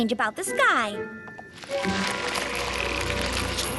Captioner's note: crackling